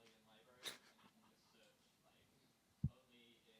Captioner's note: chuckles